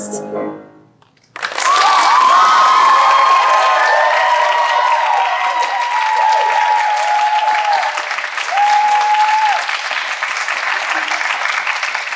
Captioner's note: applause